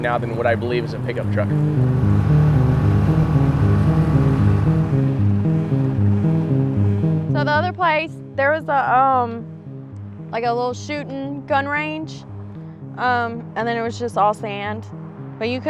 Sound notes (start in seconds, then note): 1.9 boat engine droning; 1.9 suspenseful music continues